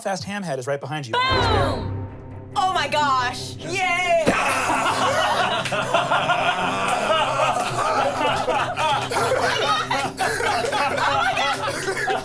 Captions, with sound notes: - Galfast Hamhead is right behind you. - Boom! - Oh my gosh! - Yay! (everyone laughs) - Oh my god!